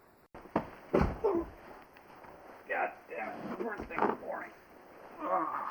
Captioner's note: muttered obscenities